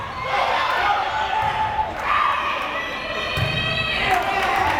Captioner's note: crowd cheering